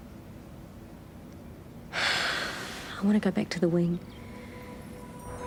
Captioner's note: sighs heavily